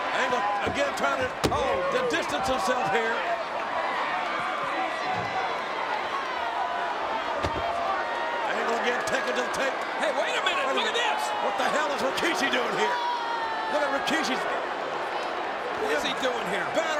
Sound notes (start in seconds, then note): 13.1 crowd boos